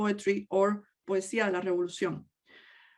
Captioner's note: speaks in native language